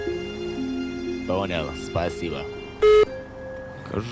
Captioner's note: on phone